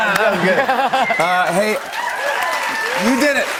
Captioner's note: cheers and applause; laughter